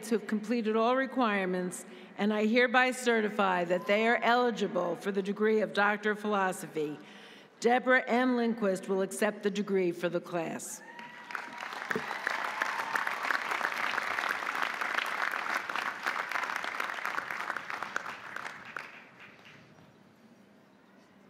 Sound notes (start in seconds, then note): 10.8 audience cheering; 10.9 audience applauding